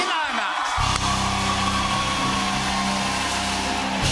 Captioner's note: cheers and applause